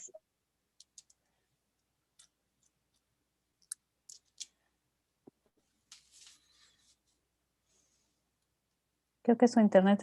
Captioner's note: silence